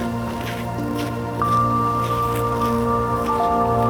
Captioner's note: soft music continues; shoes clack